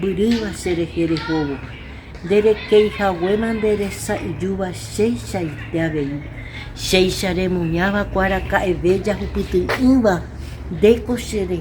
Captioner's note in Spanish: En idioma Guaraní